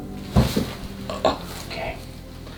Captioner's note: loud thud; painful grunting